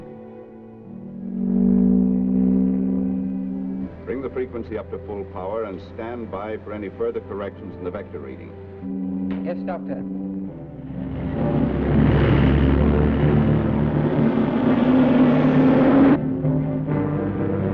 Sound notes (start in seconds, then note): 1.4 device warbles; 10.0 vehicle whooshes